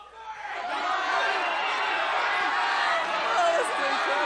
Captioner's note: crowd shouting